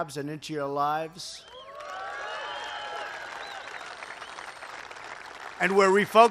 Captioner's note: applause